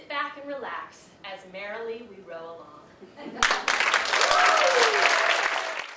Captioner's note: audience applauds and cheers